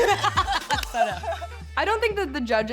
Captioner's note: group laughs